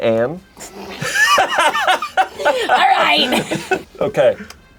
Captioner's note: laughing